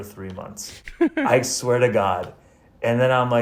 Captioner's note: laughs